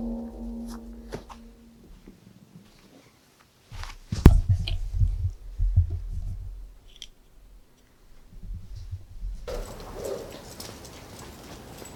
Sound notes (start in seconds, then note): 4.2 footstep thudding; 9.3 dog barking